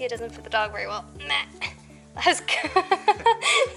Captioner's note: laughter